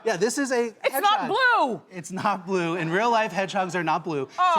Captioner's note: none